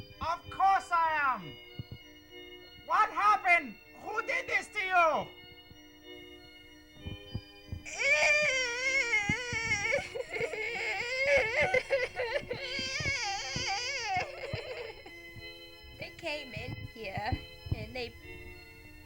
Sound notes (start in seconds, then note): 10.6 prolonged cry